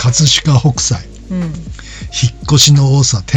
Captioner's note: laughs